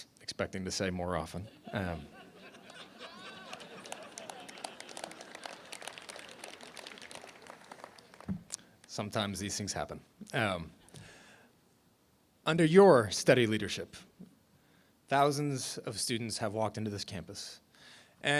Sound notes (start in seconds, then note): 1.4 laughter; 2.6 applause